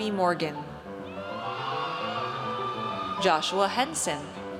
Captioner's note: audience cheers